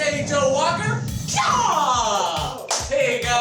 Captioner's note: yells